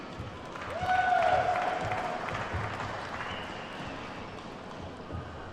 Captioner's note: attendees whooping and clapping